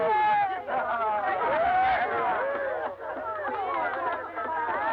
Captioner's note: cheering